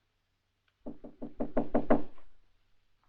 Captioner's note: knock at door